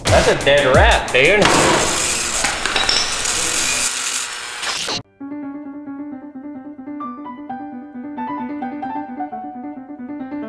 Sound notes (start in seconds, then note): 1.2 sparks buzzing; 5.1 gentle piano music